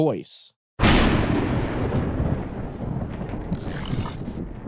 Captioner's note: thunder rumbling